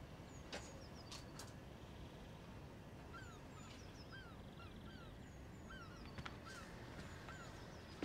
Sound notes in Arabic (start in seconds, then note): 3.9 زقزقة الطيور بهدوء